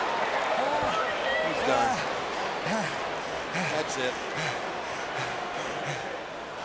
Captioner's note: applause